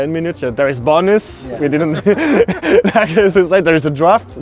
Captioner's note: laughing